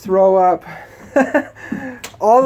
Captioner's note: laughs